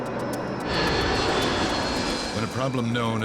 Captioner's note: engines screaming